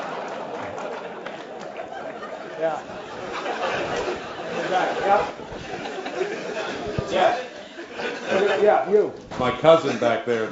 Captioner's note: laugh